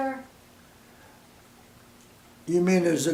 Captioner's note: silence